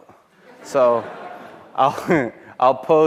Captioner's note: chuckles